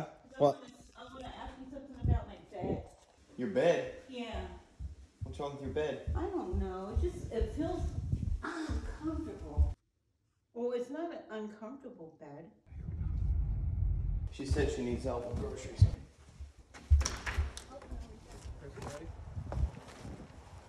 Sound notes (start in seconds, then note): 17.0 door handle clinks